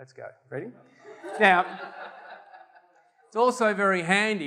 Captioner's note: audience laughter